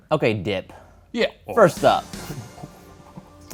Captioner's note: none